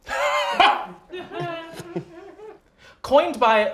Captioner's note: laughter